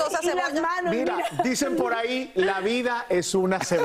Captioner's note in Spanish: risas